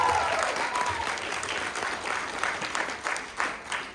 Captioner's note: applause; clapping dies down